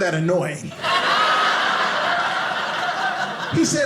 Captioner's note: audience laughing